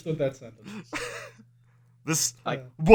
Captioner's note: laughter